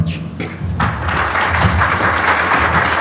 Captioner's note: applause